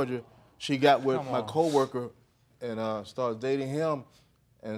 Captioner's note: scoffs